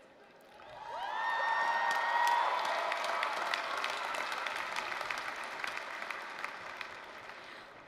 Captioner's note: applause, cheering